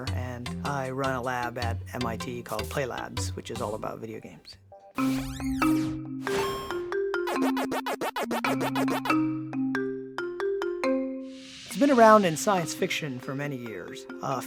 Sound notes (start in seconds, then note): 5.0 upbeat music; 6.2 video game effects